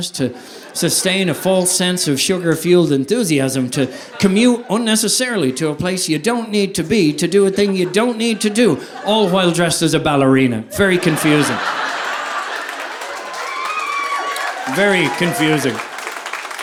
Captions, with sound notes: to sustain a false sense of sugar fueled enthusiasm to commute unnecessarily to a place you don't need to be to do a thing you don't need to do all while dressed as a ballerina. Very confusing. (audience laughing) Very confusing.